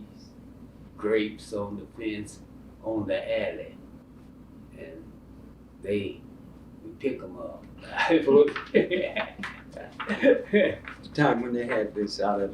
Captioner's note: laughs